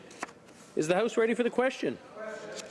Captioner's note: speaking French